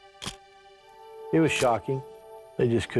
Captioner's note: camera shutter click